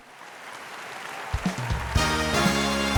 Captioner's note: audience applauds; upbeat music